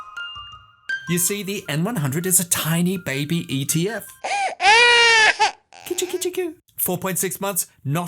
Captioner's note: baby crying